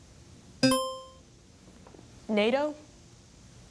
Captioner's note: buzzer dings